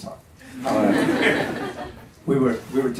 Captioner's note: audience laughs